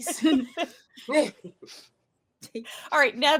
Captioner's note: laughing